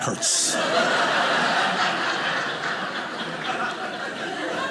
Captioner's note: audience laughing